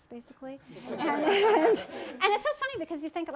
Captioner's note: laughter